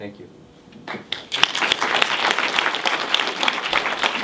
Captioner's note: audience applauds